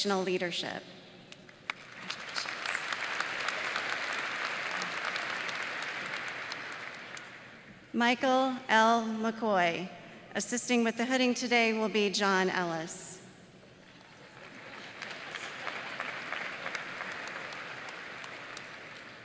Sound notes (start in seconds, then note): 7.2 applause